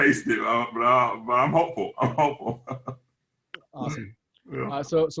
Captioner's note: laughs